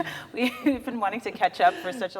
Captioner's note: laughing